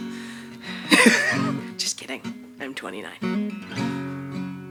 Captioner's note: chuckles